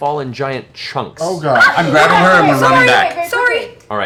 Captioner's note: yelps